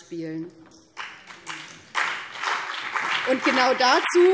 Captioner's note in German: Beifall BÜNDNIS 90/DIE GRÜNEN und CDU